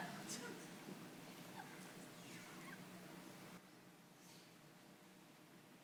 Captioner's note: audience members chuckle